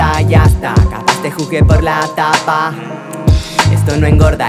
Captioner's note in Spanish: mmm